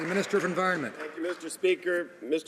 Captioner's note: some Applause